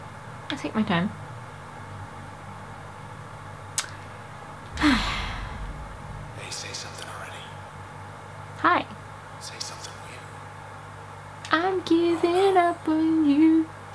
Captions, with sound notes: I'll take my time. *Tsk* *Sigh* "Hi!" ~I'm giving up on yoooou!~